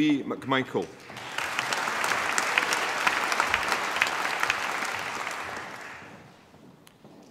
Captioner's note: applause